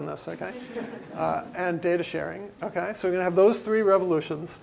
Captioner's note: laugh